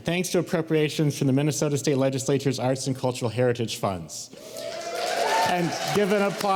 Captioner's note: applause